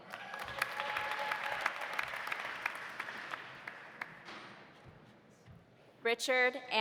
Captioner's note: audience applauding; audience cheering